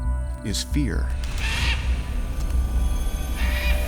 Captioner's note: bird screeching